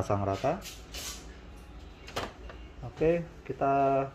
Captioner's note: moving head sound